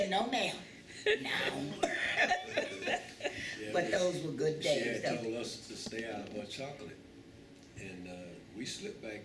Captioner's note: laughter